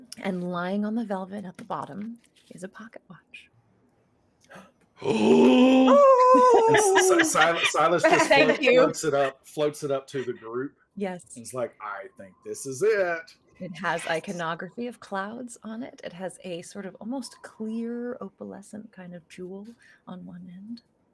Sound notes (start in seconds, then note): 5.0 group gasps; 5.0 laughing